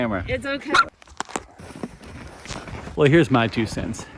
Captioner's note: dog barks